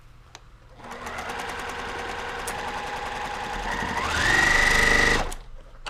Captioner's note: sewing machine roars